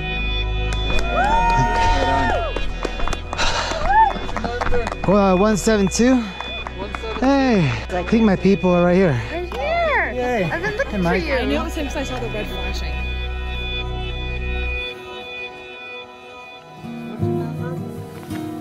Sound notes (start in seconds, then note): 0.5 crowd cheering and applauding; 14.1 crowd chattering